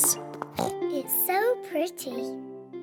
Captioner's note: oinks